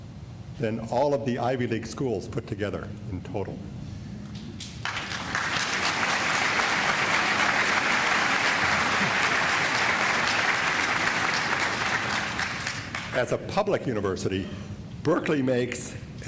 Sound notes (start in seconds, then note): 4.7 applause